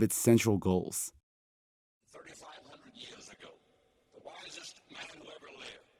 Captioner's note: soundbite of archived recording